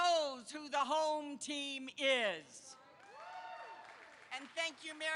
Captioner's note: applause